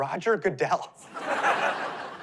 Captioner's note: laughter